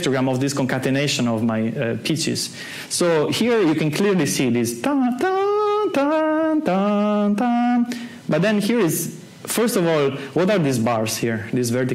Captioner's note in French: fait les sons